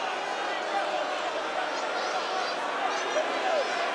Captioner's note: crowd boos